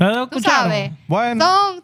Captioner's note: speaking In Foreign Language